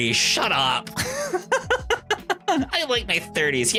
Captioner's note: laughs